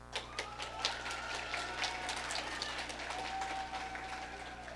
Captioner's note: audience applauding